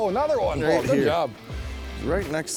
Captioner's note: voiceover